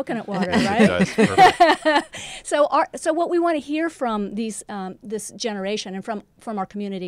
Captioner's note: laugh